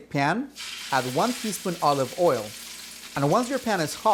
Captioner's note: pan sizzling